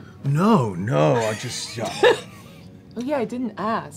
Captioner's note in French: rient